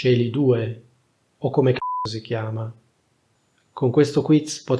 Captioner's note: beep